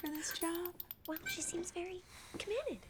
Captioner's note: door opens and closes